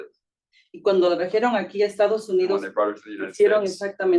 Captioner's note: speaking Spanish